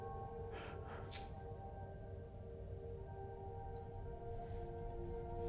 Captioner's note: lighter flickering